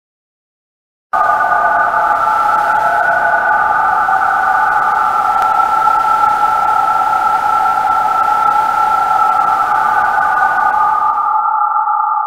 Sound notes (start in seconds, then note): 0.0 sound of vibrate